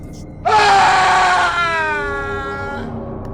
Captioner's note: loud Shouts